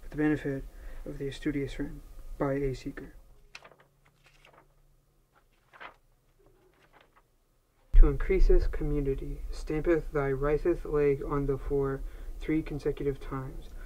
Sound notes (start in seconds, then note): 3.4 pages flipping